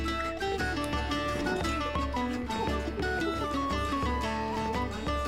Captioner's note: guests talking